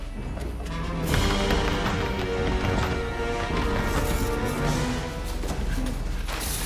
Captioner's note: intense music; door bangs and rattles